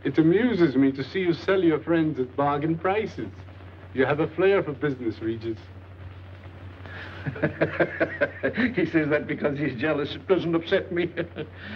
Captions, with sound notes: - It amuses me to see you sell your friends at bargain prices. You have a flair for business, Regis. - (laughing) He says that because he's jealous. It doesn't upset me.